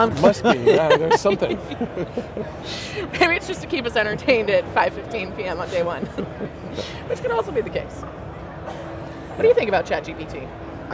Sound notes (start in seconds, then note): 0.1 laughs; 5.7 laughs